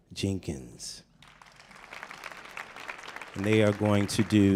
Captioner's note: audience applauding